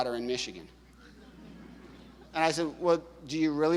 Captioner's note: audience laughing